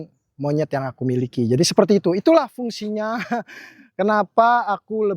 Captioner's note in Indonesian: tertawa